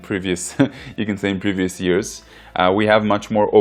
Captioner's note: giggles